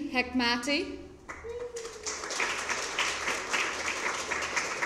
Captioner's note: applause